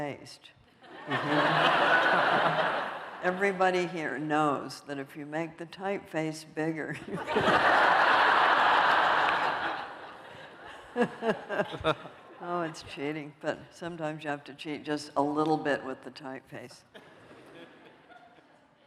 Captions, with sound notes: Everybody here knows that if you make the typeface bigger-- [LAUGHTER] Oh, it's cheating. But sometimes, you have to cheat just a little bit with the typeface.